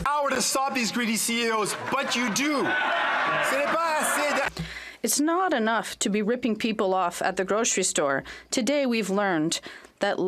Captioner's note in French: voix de l'interprète